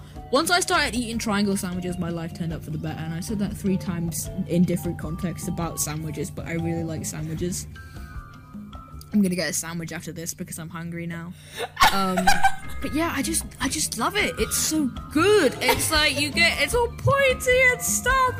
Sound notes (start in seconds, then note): 7.7 inhales; 11.5 laughs in disbelief